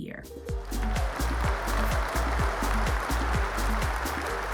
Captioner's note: cheers, applause